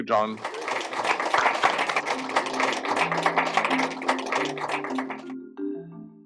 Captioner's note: applause